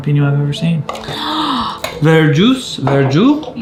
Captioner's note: gasps